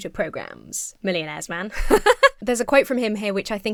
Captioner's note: laughs